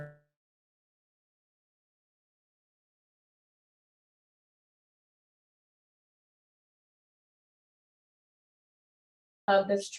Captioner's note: silence